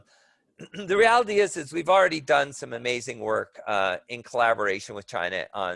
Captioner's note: cough